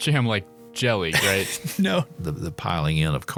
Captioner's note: laughing